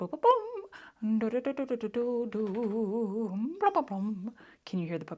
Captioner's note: shaky noise